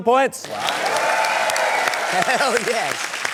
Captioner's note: cheering, applause